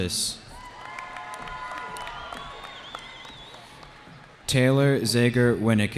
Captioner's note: cheering